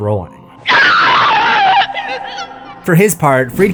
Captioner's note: screaming